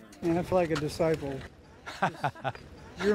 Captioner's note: laughter